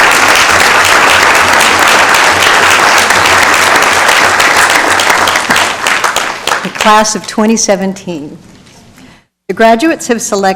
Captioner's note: applause